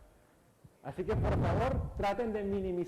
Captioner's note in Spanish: micrófono cruje